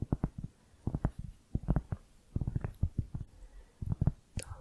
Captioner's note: tapping on cork